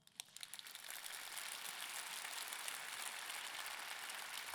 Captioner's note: audience clapping